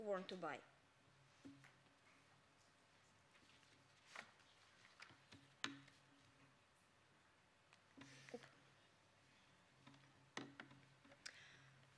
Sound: silence

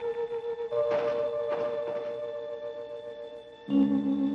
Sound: window banging

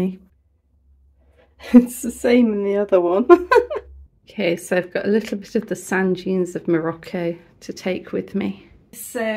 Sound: laughing

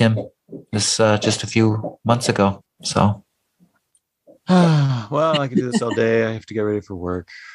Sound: sigh

